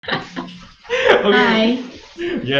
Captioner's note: laughing